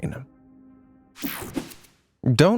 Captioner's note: air whooshing